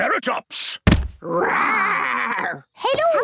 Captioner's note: thudding